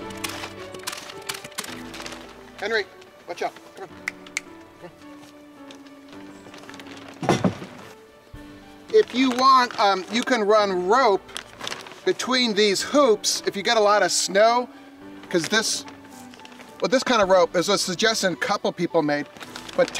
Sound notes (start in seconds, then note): 3.9 finger snapping